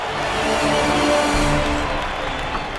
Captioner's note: cheers